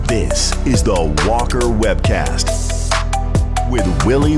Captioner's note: voiceover